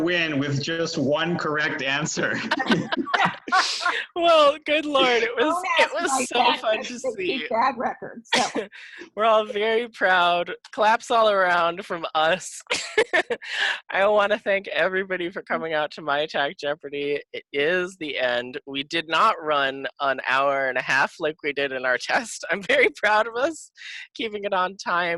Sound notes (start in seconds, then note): 1.3 laughing; 12.6 laughing